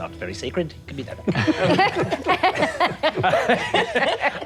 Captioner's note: all laughing